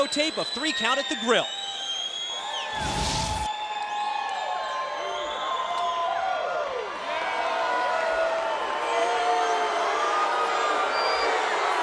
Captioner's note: crowd cheering